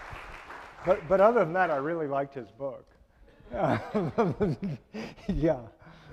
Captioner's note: laughing